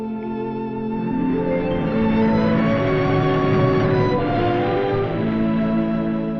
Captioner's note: dramatic music; waves crashing